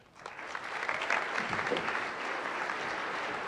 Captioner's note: applause